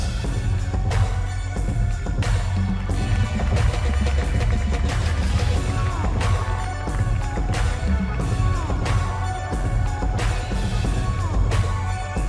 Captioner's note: applause